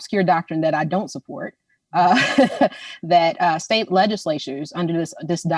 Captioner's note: laughs